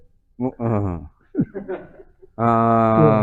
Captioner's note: laughs